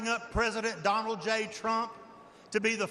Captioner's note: none